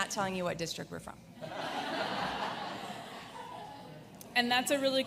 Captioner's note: audience laughs